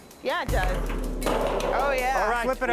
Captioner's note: metal rattling